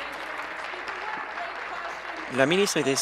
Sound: applause

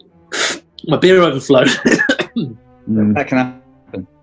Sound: laughs

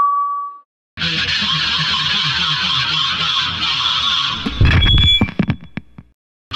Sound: maniacal Laughter

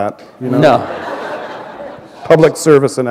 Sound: laughter

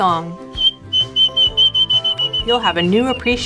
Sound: bird whistles

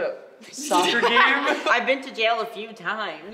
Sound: laughing

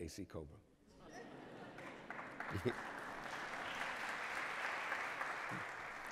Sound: cheers, applause

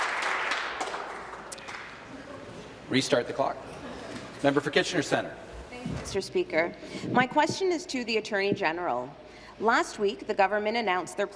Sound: applause

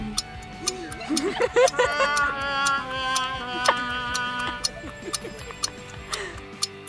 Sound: gasps with laughter

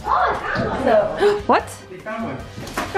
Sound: gasps

